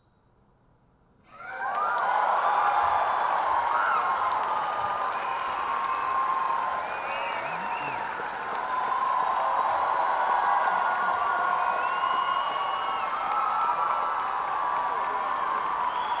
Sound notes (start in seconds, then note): 3.1 audience cheering